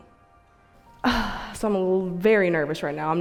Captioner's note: girl sighs